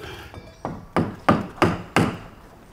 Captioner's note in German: Hämmern